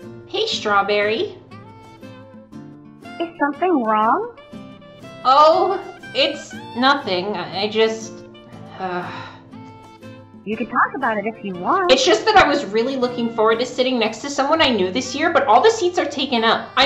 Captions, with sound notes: Hey, Strawberry. Is something wrong? Oh, it's... nothing, I just... (Raven sighs) You could talk about it if you want-, It's just that I was really looking forward to sitting next to someone I knew this year, but all the seats are taken up!